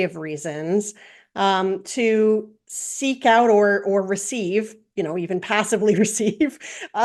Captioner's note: laugh